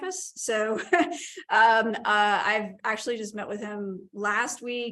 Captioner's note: laughter